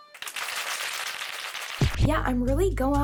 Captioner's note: playing a melody; crowd applauding